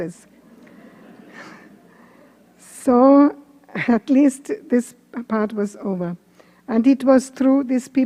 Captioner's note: laughter